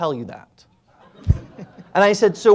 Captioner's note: audience laughing